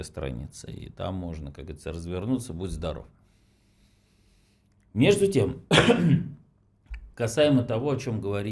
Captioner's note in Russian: откашливается